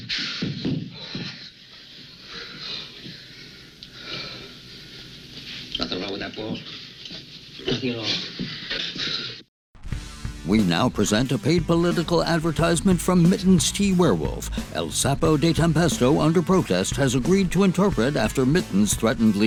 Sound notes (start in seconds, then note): 2.2 panting